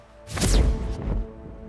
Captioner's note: zapping